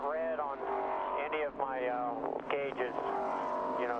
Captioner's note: radio